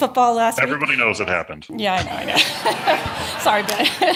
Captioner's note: laughter